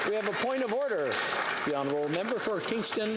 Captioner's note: applause